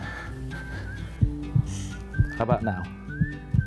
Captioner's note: heart beating